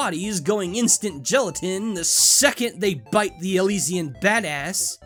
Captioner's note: none